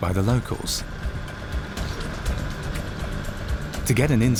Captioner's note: car engine humming